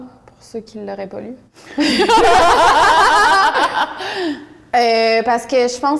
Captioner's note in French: rires